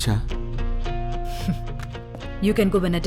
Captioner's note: chuckles